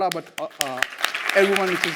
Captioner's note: audience applauds